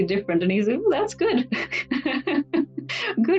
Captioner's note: laughs